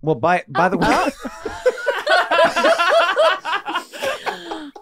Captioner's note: group laughing